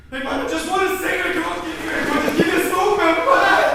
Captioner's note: struggling; screams